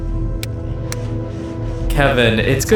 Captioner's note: ape noises; three finger snaps